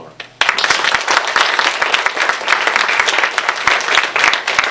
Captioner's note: applause